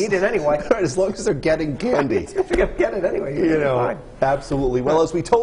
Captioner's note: laughter